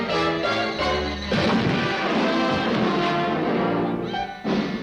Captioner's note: fast-paced dramatic music; body slams